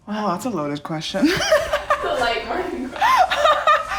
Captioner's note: laughs